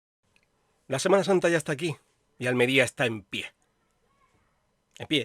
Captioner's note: silence